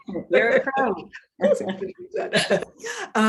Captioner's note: woman chuckling